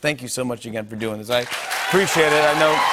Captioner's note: cheers and applause